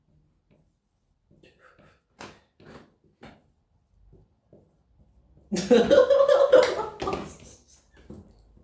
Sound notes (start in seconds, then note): 1.3 breathes out